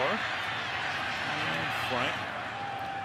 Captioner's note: cheers